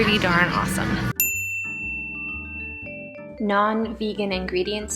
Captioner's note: bell dings